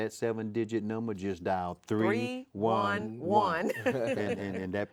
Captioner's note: laughs